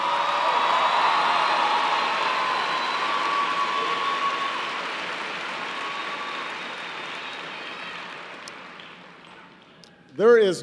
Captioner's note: applause